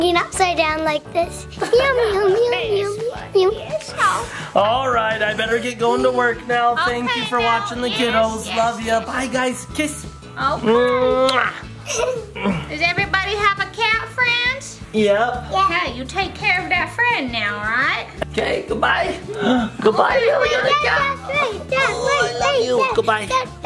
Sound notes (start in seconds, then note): 10.8 kisses; 19.2 gasps